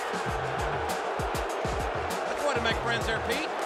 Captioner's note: crowd boos